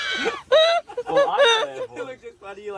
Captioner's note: more laughter